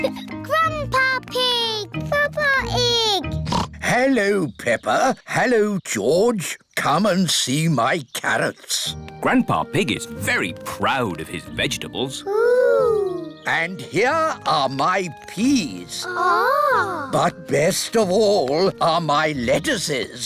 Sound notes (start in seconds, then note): 3.3 oinks